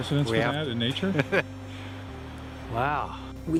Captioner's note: Gülme